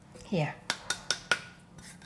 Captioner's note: tap, tap, tap!